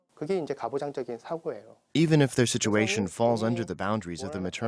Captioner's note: Korean